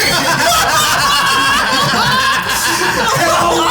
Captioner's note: all laughing